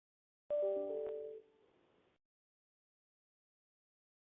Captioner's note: computer alerting